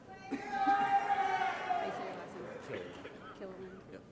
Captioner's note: applause & Cheering